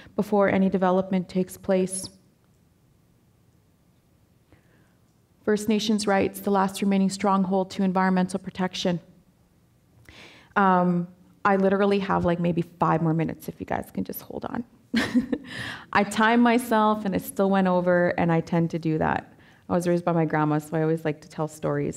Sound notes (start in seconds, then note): 15.3 laughing